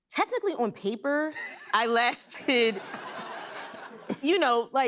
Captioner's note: laughter